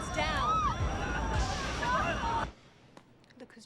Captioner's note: screaming and crying